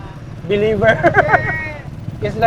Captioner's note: laughs